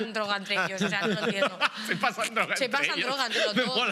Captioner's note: laughing